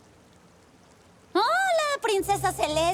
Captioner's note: fake cheerfullness